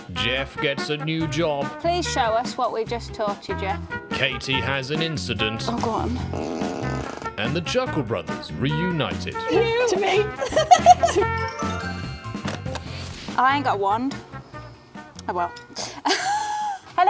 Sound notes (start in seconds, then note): 5.6 flatulence sound; 9.3 murmurs; 9.6 giggling; 11.4 xylophone tinkling; 15.7 laughs